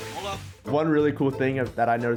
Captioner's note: speaks in foreign language